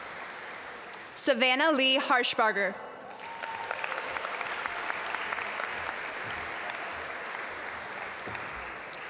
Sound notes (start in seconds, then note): 3.0 audience applaud